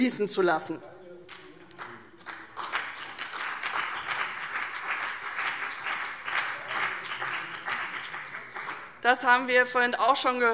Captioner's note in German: Beifall